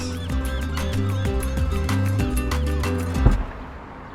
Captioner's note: gulls squawking